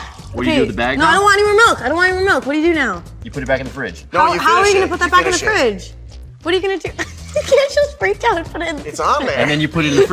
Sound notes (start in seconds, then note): 6.9 laughs